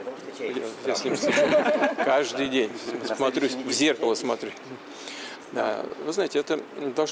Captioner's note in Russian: Смех